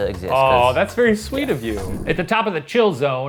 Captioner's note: air whooshing